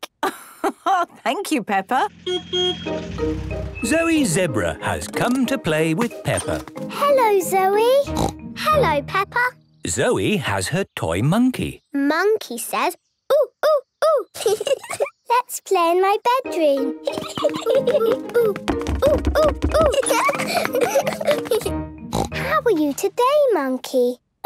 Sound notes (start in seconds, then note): 0.2 laugh; 2.2 honking; 7.9 snort; 19.0 laughs; 22.1 snort